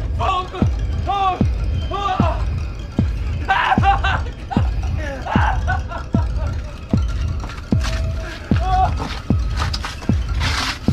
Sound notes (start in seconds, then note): 3.4 terrified screaming